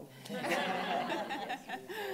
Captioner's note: laughing